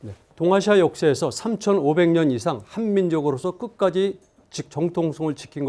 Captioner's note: speaking in Korean